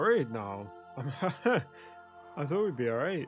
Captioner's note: nervous chuckle